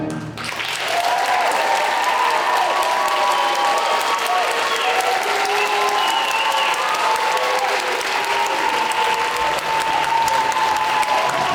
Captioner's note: applause